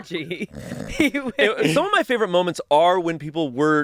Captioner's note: snoring